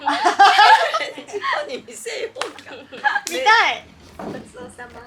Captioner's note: laughs